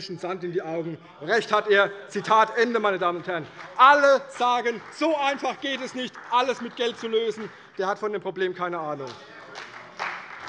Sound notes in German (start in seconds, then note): 2.6 Beifall bei der CDU; 9.1 Beifall bei der CDU - Widerspruch bei der SPD